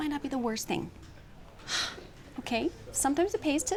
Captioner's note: sighs